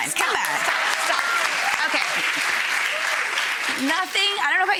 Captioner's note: audience applauding